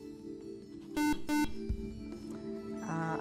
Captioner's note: buzzer